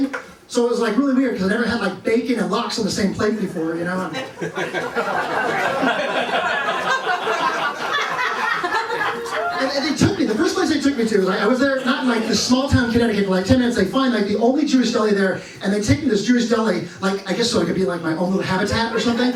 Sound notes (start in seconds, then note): 4.0 laughter